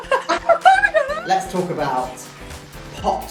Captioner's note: laughs